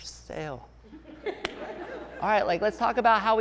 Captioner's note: laughing